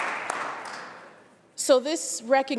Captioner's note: applause